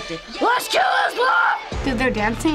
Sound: screams

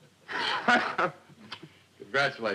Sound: laughing

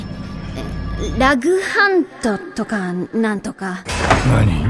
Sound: echo effect

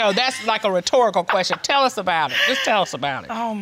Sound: laughs

